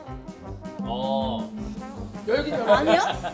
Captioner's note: pfft